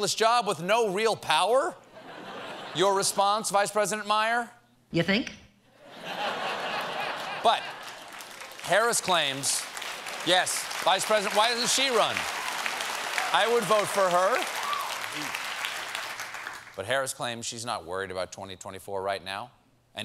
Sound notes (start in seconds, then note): 5.8 laughter; 7.0 applause